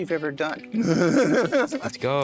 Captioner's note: both laughing